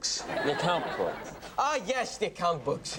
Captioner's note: audience laughs